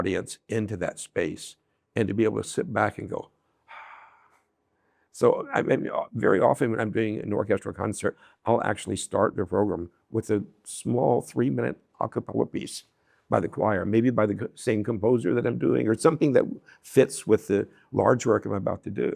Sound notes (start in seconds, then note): 3.6 sigh